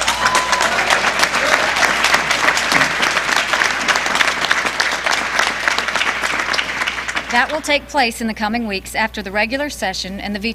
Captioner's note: applause